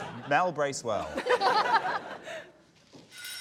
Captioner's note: laughter